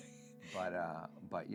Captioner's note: laughing